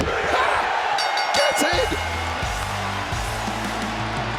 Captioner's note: bell rings